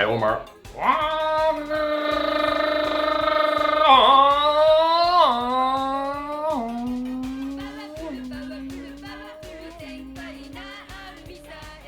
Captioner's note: sound imitation of an engine